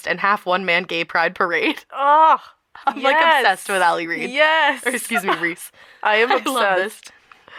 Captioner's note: laughter